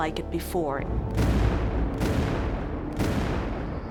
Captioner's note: cannon fire